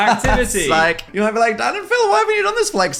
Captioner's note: laughs